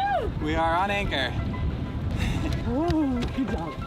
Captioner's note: laughs